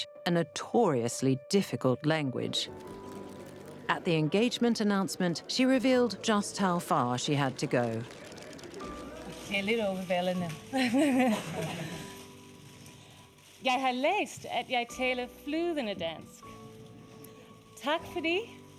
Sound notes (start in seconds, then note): 2.6 gentle music; 9.4 speaking in foreign language